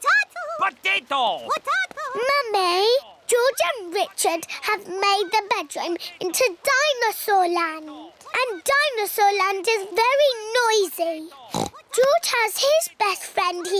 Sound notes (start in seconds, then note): 11.5 oinks